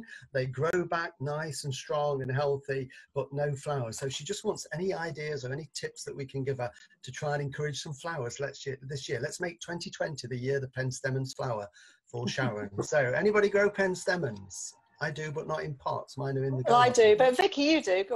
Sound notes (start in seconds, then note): 8.6 stammers; 12.2 blond-haired woman chuckles